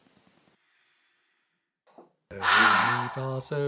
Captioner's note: a deep breath